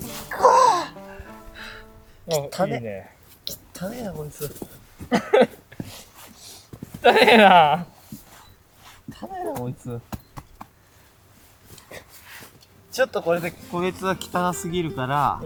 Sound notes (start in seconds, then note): 10.4 laughs